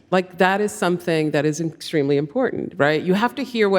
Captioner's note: none